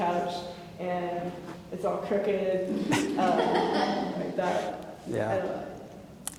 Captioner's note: laughing